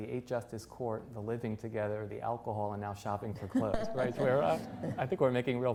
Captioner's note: laughter